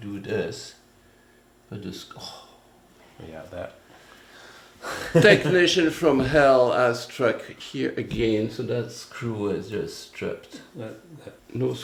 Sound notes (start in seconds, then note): 4.8 laughter